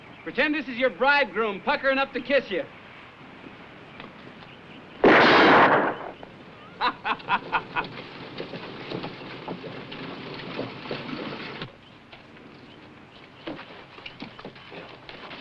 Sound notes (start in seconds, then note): 5.0 gunshot; 6.6 laughs